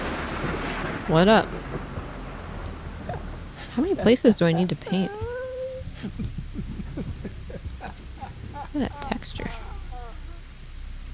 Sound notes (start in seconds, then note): 0.1 lightning; 4.6 man's laughter